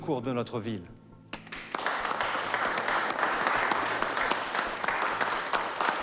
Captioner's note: applause